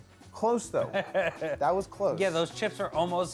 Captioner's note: laughing